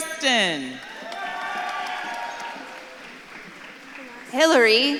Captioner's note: audience claps and cheers